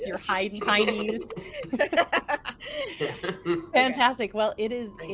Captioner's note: laughs